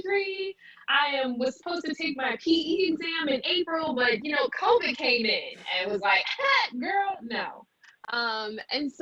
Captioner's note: chuckles